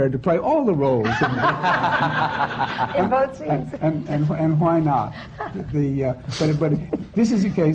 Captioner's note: laughter